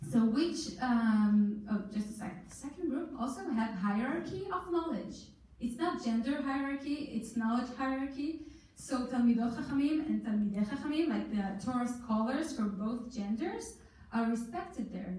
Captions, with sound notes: Second group also had hierarchy of knowledge. It's not gender hierarchy it's knowledge hierarchy. So (in foreign language)and (in foreign language) the callers for both genders are respected there.